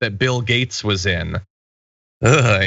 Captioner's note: laugh